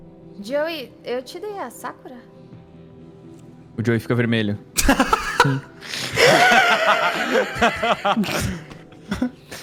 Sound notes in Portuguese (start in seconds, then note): 6.0 risadas